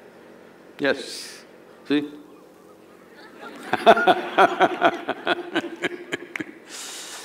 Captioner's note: laughter